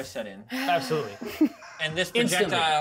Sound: speaker chuckles

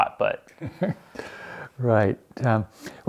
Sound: laughs

